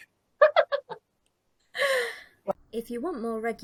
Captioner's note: laughs